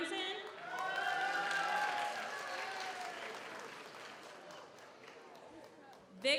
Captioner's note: audience applauds; audience cheers